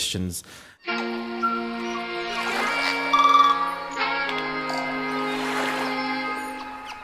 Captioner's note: lively music; tweeting